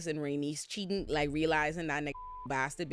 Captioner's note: beep